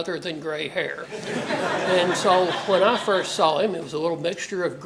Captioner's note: laugh